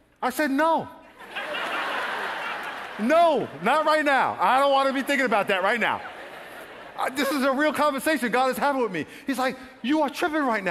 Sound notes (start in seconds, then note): 1.3 laughing